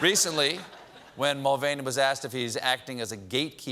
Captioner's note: laughter